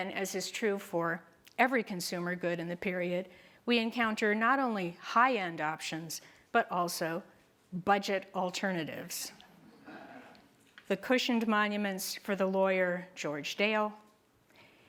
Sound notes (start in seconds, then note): 9.6 group laughter